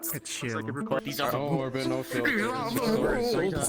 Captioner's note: chatter